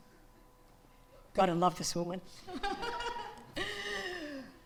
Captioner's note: laughs